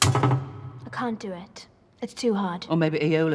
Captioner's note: thuds